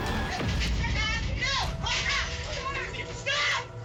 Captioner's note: tense music; clamoring